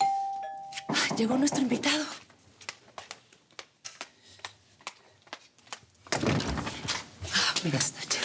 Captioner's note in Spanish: Timbre de la puerta